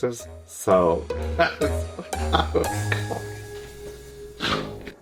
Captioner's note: laughs